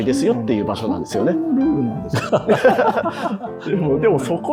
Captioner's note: laughing